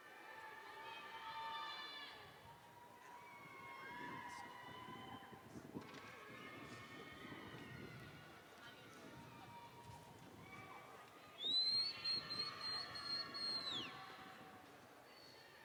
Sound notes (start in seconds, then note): none